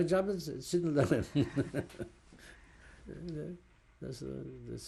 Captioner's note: laughs